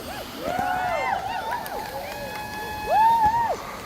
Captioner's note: crowd cheering